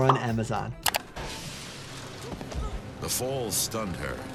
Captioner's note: mouse clicks